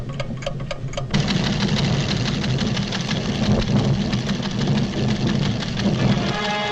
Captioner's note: machine rustling; volcano rumbling; dramatic music